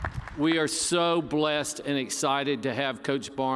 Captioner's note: cheers and applause